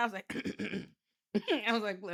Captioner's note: clears throat